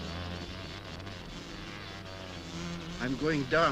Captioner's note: wasps buzzing